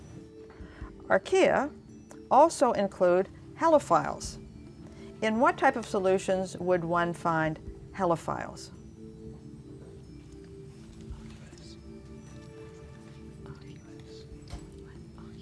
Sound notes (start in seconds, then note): 10.2 whispering